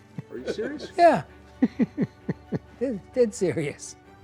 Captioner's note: laughs